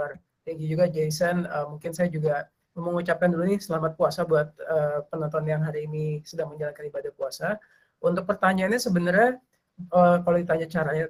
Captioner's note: non-english speech